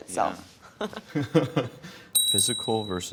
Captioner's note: laughing